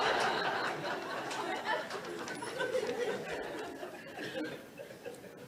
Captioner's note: audience laughs